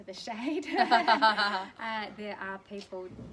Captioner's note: laughter